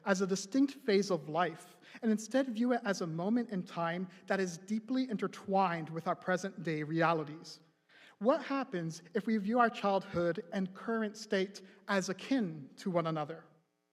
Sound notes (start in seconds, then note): none